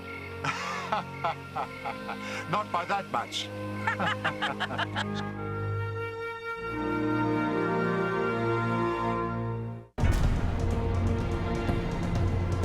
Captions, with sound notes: - (laughing) Not by that much. (laughing) (dramatic orchestral music)